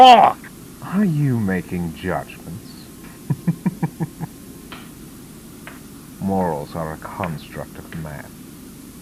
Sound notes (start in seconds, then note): 3.2 chuckles Menacingly